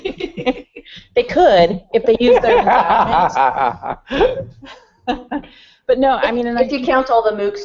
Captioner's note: laughter; laughter